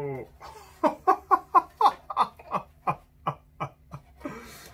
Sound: he laughs

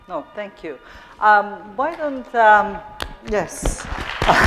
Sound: audience clapping

